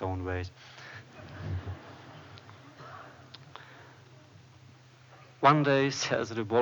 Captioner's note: laughter